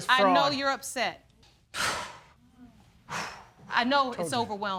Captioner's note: sighs